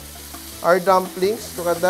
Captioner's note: sizzle